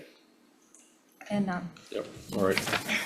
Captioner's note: faintly speaking